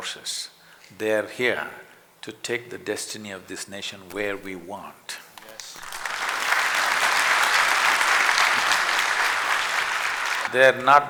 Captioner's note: applause